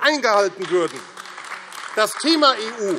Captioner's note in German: Beifall AfD